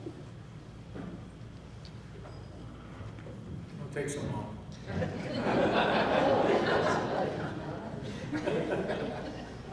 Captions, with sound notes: It takes a moment. (laughing)